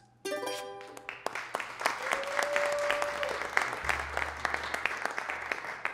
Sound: audience cheering and applauding

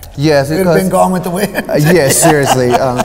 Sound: laughing

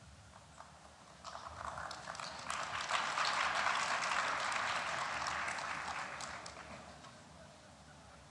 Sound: applause

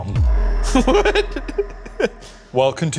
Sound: laughing

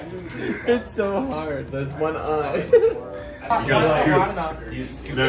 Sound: laughs

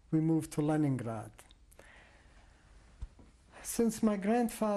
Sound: pauses for 3 seconds

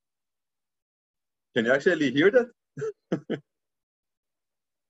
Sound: laughs

